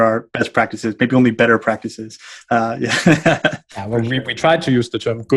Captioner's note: laughs